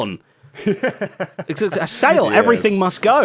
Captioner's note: laughs